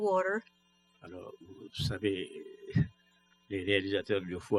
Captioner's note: speaking french